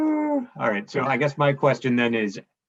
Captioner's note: amused yet distressed noise